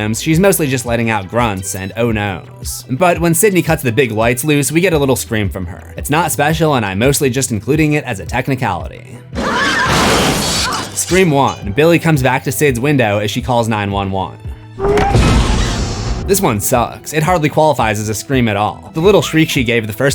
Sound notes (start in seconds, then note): 9.3 screams; 14.8 screams